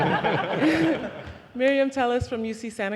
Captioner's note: audience laughing